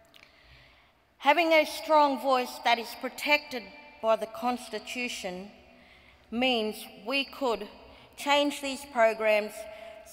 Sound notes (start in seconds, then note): none